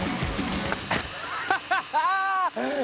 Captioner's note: bicycle crashes; laughter